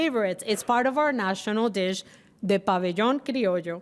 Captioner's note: speaking Spanish